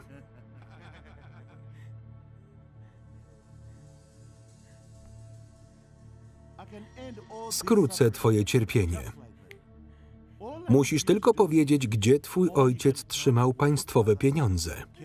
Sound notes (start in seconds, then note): 0.0 laughing; 4.5 ominous music